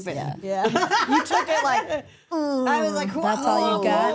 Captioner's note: laughs; groans